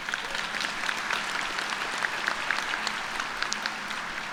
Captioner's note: applause